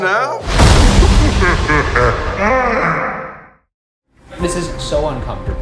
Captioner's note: Hat Box ghost laughing